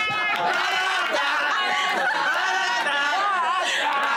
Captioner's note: company humming